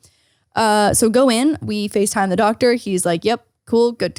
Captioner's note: none